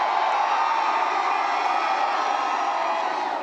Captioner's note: cheers